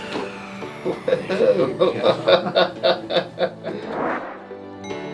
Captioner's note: patient chuckling